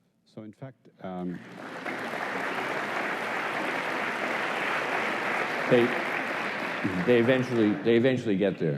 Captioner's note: applause